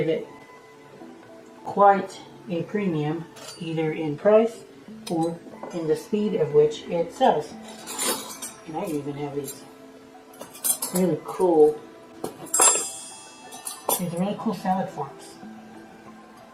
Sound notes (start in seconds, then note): 12.2 clanking flatware